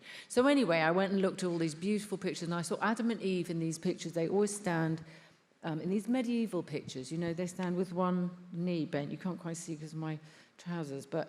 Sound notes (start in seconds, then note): none